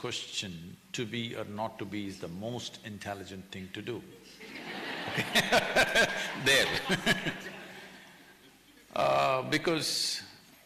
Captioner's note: laughter